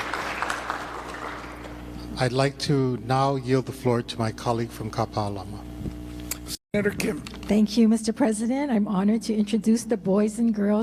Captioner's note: applause